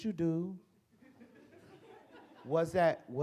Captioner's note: audience chuckles